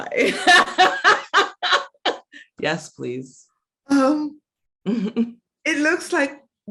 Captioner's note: laughs